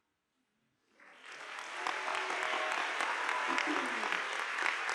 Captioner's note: audience applauding